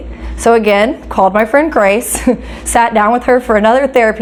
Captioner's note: chuckles